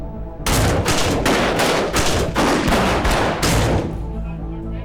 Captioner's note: gunshots fires